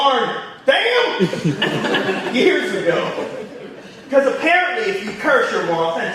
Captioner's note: audience laughing